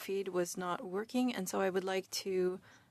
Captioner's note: speaking in French